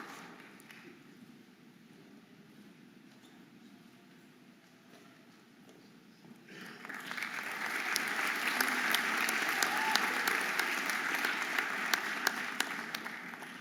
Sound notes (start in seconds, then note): 2.8 audience applauding and cheering